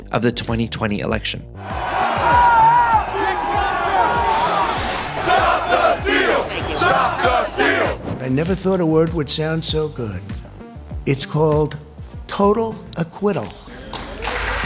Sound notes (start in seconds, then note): 1.6 crowd shouting; 13.7 applause